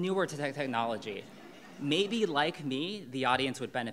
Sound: audience laughing

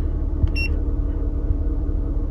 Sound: beep

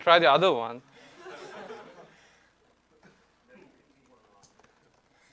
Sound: audience laughing

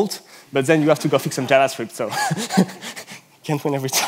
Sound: laughs

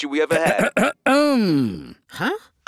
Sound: clears throat

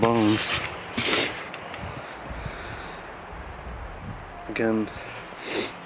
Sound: twigs crackling

